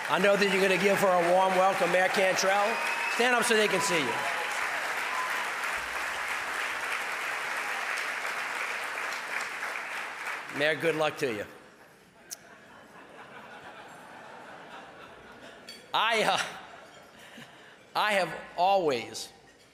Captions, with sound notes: I know that you're gonna give her a warm welcome, mayor Cantrell, stand up so they can see you. (audience applause) Mayor, good luck to you. (audience laughing) I have always,